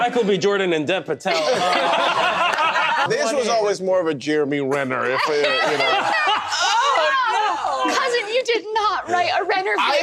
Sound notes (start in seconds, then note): 1.4 laughter; 5.2 gasps, laughs